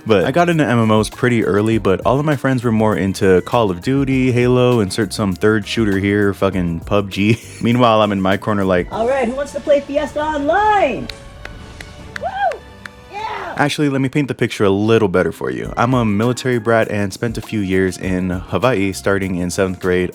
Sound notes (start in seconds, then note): 12.1 lonely clapping